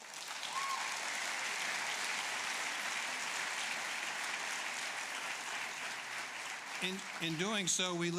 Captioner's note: applause